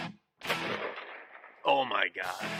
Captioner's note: gunshot